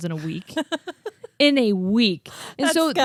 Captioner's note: laughs